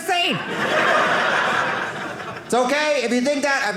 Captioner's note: audience laughing